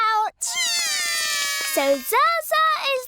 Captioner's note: both cry